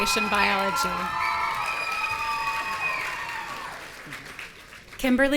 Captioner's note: audience cheering